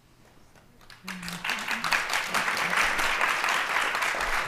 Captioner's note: applause